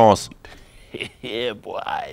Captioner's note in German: Freudiges Kichern